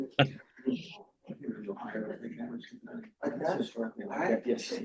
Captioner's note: light chatter